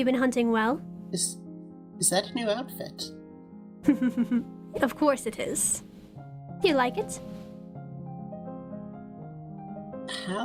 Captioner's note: chuckles